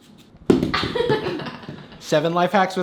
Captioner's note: laughs